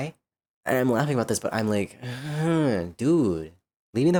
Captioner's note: uncomfortable groan